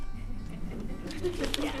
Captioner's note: chuckling